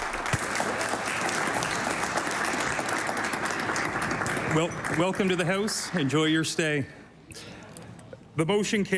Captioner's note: applause